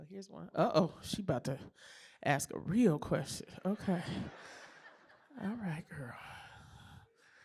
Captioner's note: laughter